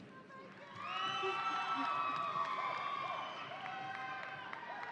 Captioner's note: audience applauding